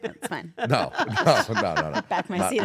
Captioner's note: laugh